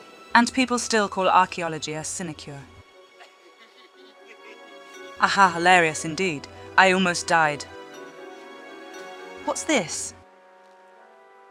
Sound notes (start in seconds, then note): 3.2 laughter from a distance